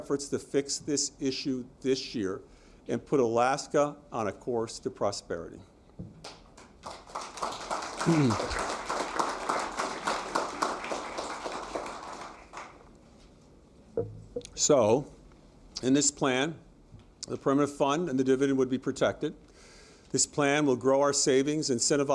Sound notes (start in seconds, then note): 9.7 applause